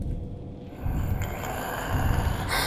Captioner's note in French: Le monstre rugit